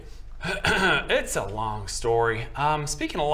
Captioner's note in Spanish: se aclara la garganta